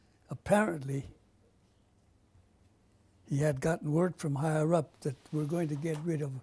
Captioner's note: pauses for 3 seconds